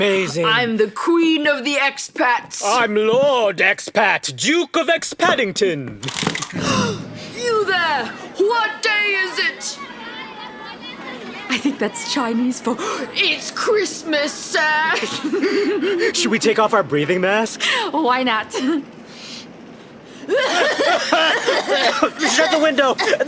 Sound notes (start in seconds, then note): 9.2 crowd sounds